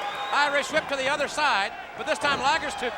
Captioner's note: footsteps plodding